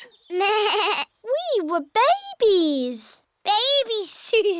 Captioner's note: bleats